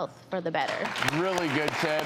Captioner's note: audience applauding